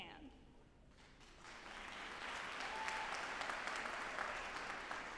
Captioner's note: audience applauding